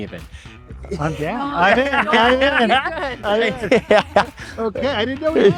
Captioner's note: laughing